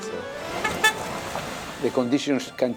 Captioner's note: car honks